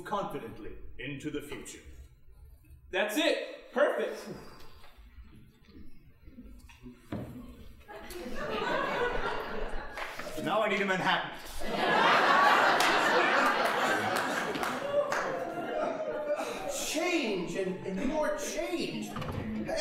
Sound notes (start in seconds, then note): 4.2 exhaling; 7.9 audience laughing